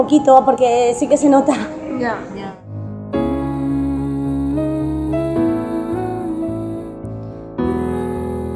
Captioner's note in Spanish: risas